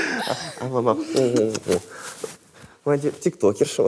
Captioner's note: both laugh; smooches